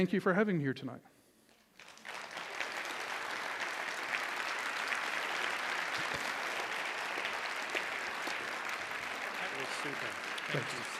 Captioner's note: applause